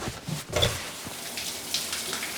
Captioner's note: water running; shower turning on